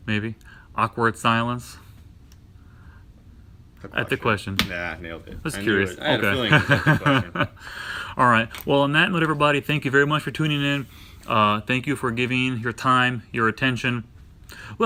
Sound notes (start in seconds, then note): 6.1 laughs